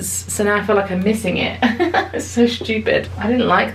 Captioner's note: chuckles